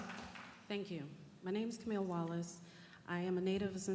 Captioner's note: applause